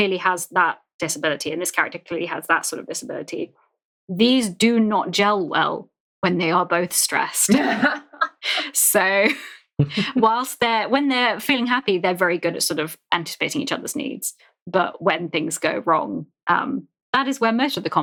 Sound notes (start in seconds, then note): 7.5 laughs